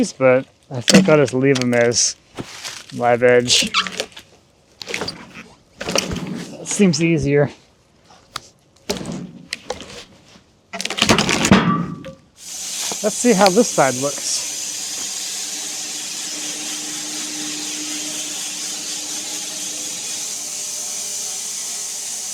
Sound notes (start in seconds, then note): 5.8 log thudding; 10.8 metal clanks; 15.4 woodcutting machine hissing